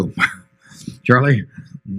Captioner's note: laughs